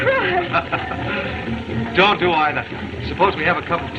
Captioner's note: laughs